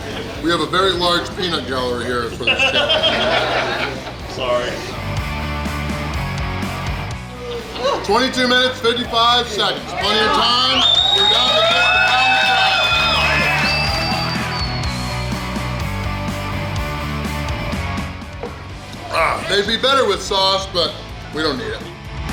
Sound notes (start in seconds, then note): 2.4 hahaha; 10.0 cheering & Clapping